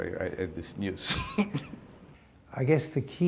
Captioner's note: chuckle